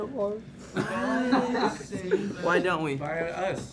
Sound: laughing

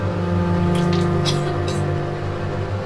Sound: emma spits and coughs

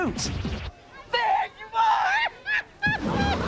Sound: laughs

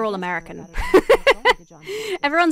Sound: laughs

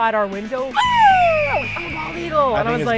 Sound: epic eagle sound

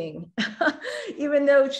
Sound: giggles

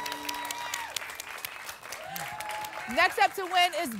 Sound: applause and cheering

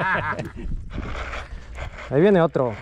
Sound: laughs

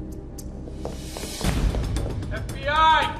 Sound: running footsteps

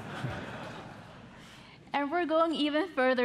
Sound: audience laughing

